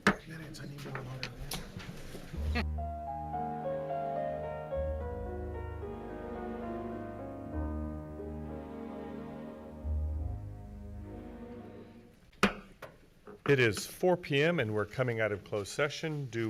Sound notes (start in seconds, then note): 0.1 gavel bangs; 2.6 gentle music; 12.2 gavel bangs